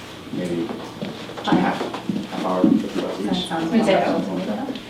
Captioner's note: people chattering